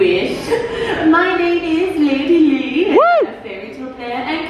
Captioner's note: cheers